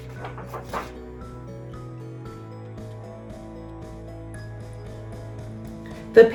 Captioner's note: pages shuffles; uplifting instrumental music